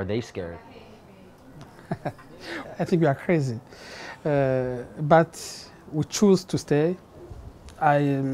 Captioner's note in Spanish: risas